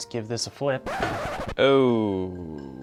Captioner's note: record scratch